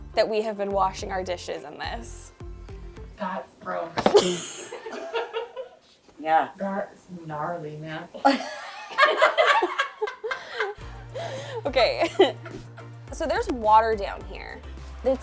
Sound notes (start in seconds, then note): 4.0 laughing; 8.2 all laughing